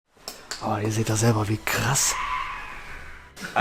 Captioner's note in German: gruseliges Lachen im Hintergrund